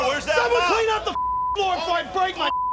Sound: beeping

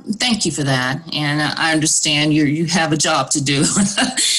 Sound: laughs

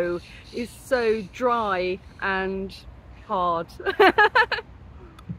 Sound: laughing

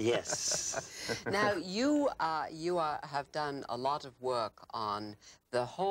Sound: laughing

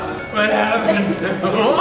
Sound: laughing

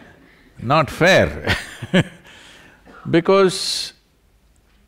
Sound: laughs; laughter

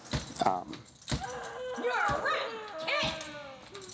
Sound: continued thudding; child sobbing

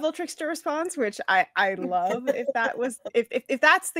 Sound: laughs

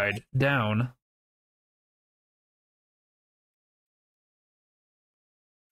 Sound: silence

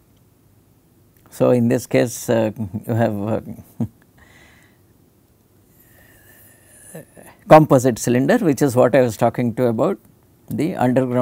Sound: laugher

